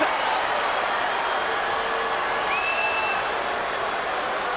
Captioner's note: crowd exclaiming